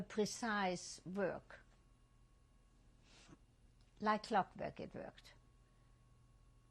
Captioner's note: pauses for 3 seconds